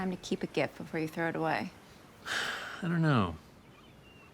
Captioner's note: sighs